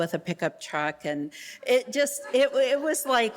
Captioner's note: audience laughing